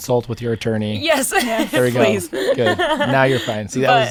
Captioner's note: laughing